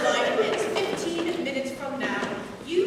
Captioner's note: none